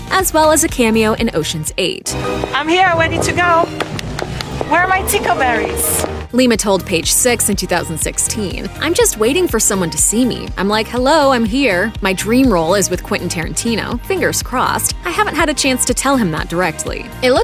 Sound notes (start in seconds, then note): 3.8 claps